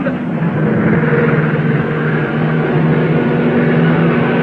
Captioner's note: cars revving